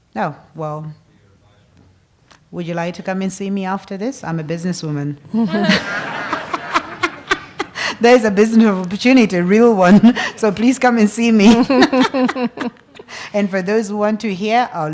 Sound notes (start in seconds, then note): 5.3 laugh; 11.2 laugh